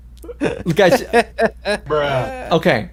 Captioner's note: laughs